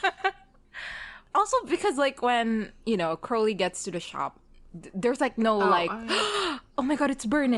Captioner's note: laughs; gasps